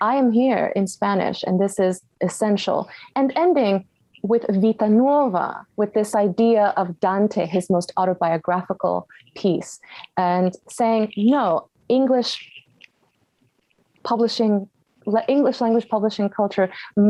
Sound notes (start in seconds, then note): 4.2 Spanish language